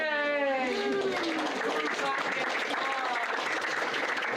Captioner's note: applause